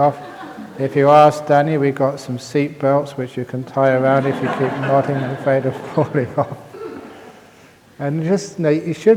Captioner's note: laughter